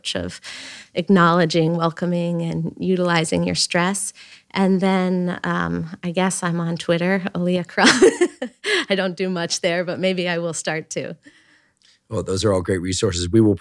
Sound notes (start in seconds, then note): 7.8 chuckles